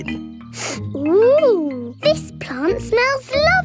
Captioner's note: sniffs